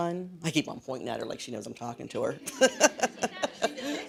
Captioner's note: laughs